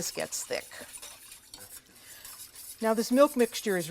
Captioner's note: whisking